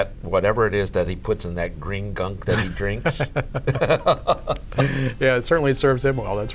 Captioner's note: laughing